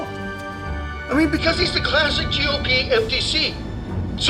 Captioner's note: radio